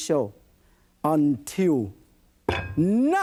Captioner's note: knife banging